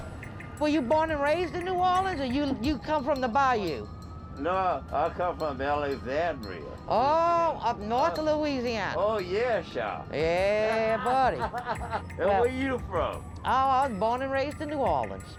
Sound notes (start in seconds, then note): 10.3 man laughs